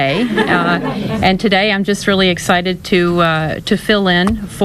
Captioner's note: laughter